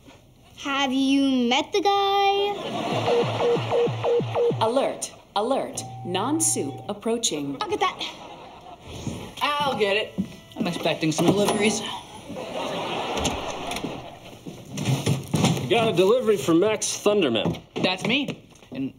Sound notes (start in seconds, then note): 2.8 beeping